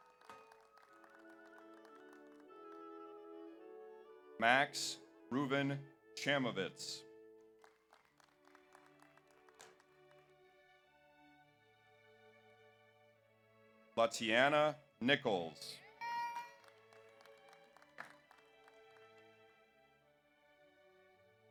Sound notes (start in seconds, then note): 0.0 audience applauds; 0.1 audience cheers; 7.5 audience applauds; 16.2 audience applauds; 16.2 audience cheers